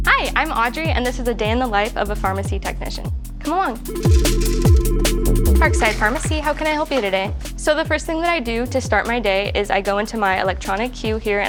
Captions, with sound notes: Hi, I'm Audrey, and this is a day in the life of a pharmacy technician. Come along. [phone ringing] Parkside Pharmacy, how can I help you today? So, the first thing that I do to start my day is I go into my electronic queue here,